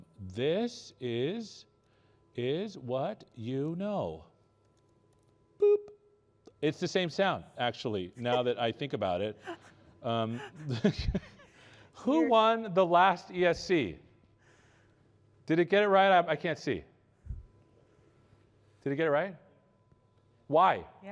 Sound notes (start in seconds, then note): 10.3 laughter